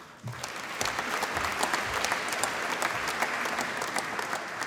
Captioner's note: applause